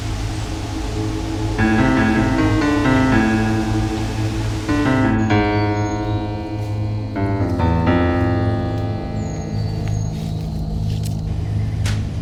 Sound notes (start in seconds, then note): 2.2 engine revs; 5.3 birds chirping